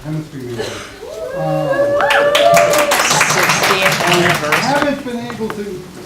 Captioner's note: cheering; applause